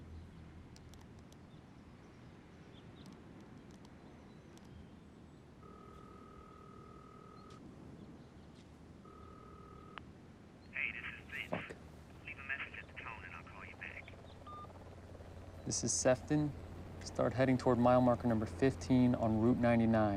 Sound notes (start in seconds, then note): 5.6 line ringing; 14.5 beep